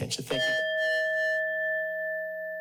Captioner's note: bell continues ringing; bell rings